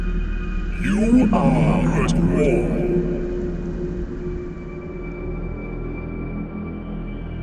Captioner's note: godly voice